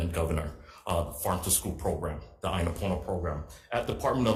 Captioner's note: speaking Hawaiian